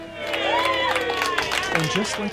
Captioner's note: clapping